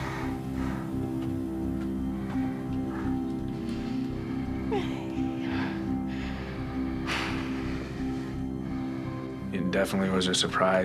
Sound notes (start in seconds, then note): 4.2 sobbing